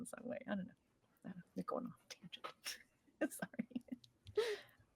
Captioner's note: speaking softly